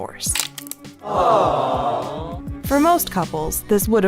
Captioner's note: crowd groans